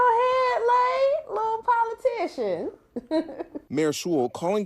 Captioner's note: laughing